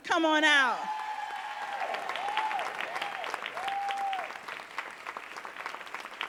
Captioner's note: audience cheering and applauding